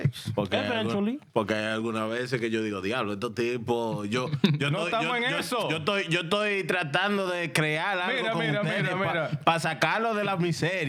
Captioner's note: laughing; speaking In Foreign Language